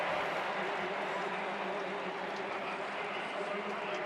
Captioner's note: crowd cheering